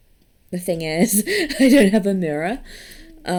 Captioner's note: laughs